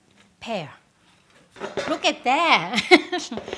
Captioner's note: laughs